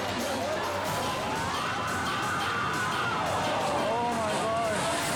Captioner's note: people screaming